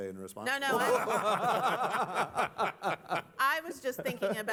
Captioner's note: laughter